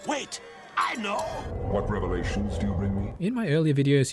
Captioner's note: sexy eldritch male voice